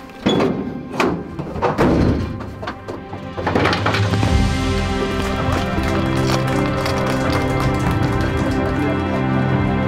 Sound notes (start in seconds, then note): 3.9 uplifting music; 5.0 volunteers clapping